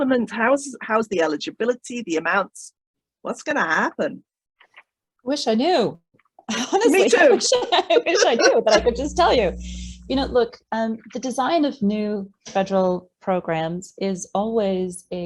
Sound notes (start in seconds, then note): 6.5 laughter